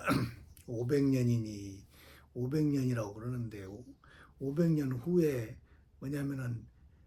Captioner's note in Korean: 목을 가다듬음